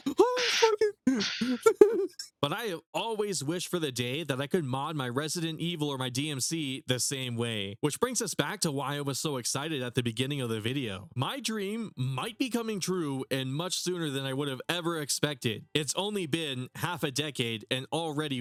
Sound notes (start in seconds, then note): 1.1 whimpers